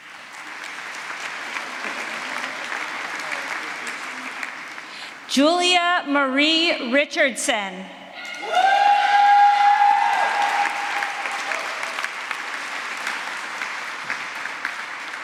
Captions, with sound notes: Julia Marie Richardson. [APPLAUSE]